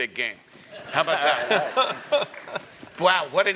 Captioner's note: laugh